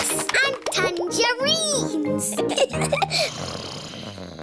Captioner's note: both giggling; snoring